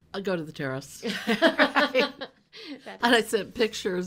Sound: laughing

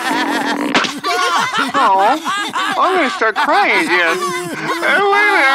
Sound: laughter

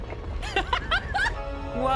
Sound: laughter

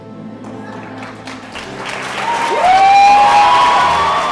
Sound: cheering and applause

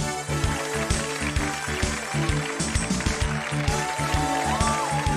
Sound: audience applauding

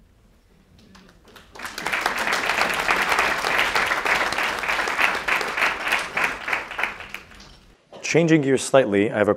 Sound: applause

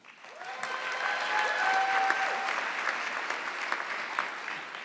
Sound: audience clapping

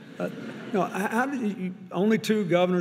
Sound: audience laughing; chuckles

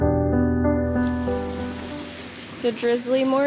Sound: light drizzling

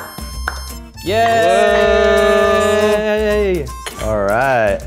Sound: clapping; both cheering

